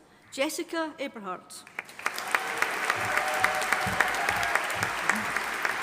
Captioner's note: audience applauding